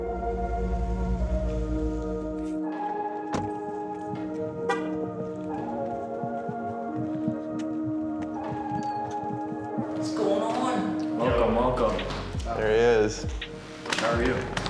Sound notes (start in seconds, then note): 0.2 soft music; 3.3 door slams; 4.5 horn honking; 6.0 soft music